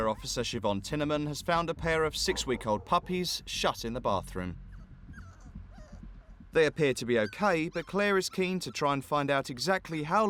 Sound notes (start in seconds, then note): 5.1 dog whining